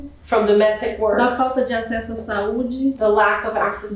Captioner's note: speaking portuguese